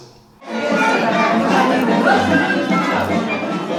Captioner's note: room chatter